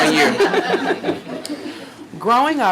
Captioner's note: audience laughing